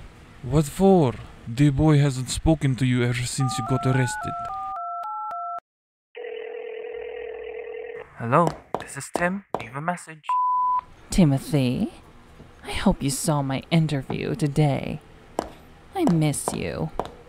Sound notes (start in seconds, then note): 4.5 dial noises; 6.1 phone ringing